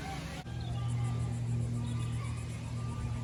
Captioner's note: cicadas chirping